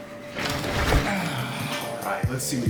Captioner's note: gear rustling